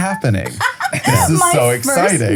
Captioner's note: laughing